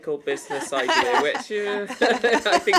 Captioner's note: laughs